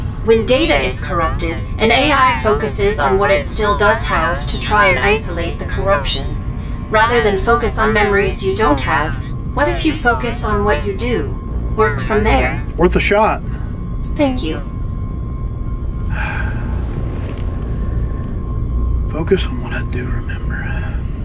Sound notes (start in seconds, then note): 16.1 Hawk sighs